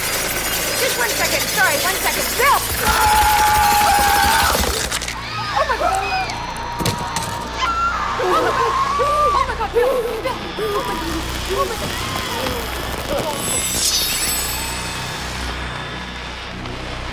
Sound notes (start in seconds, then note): 2.2 yelling; 5.5 audience screaming